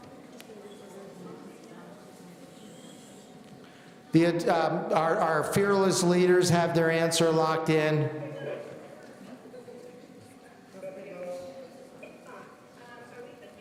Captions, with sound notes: (people in the audience conversing) Our fearless leaders have their answer locked in. (people in the audience conversing)